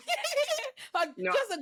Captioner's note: laughing